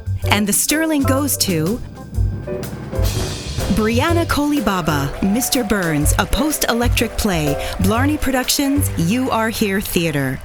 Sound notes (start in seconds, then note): 2.3 drumroll; 4.0 applause